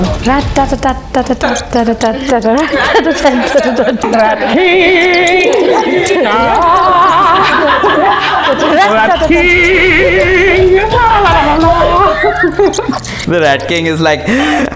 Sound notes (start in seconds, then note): 6.8 laughter; 11.9 laughter